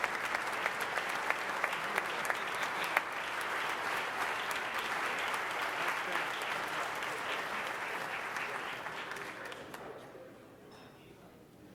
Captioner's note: applause